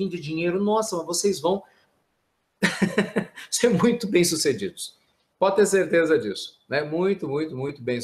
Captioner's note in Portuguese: risos